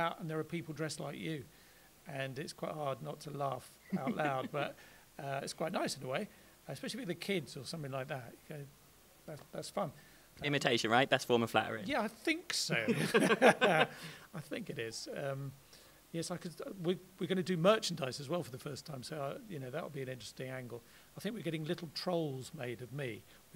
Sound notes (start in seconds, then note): 12.9 laughs